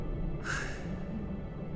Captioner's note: gasps